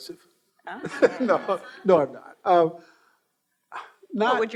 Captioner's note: laughing